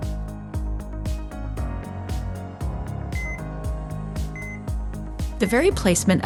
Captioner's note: bright music; gentle beeping